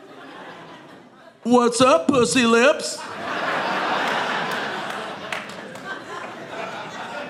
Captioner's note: audience laughing